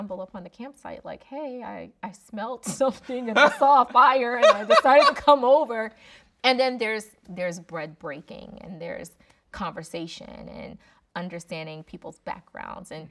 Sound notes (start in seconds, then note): 5.4 laughing